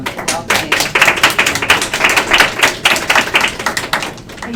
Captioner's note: applause